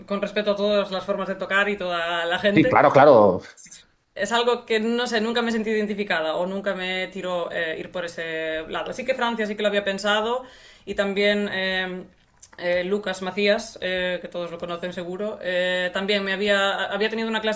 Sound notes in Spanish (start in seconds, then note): none